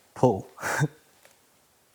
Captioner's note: chuckles